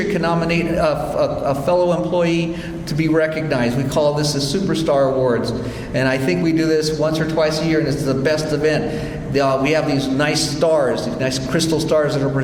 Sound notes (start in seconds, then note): none